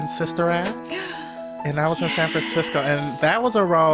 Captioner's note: hopeful music; gasps